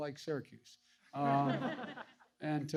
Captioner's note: laughter